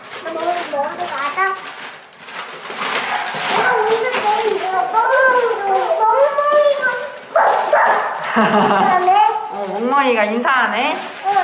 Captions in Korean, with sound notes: 우리 먼저 가자. (아래집 멍멍이가 짖음) 멍멍이가 “멍멍!” 인사하네? 어. 멍멍이가 인사하네?ㅋㅋㅋ